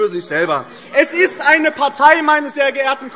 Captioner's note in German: Zurufe AfD